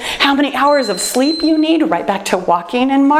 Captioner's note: timer beeps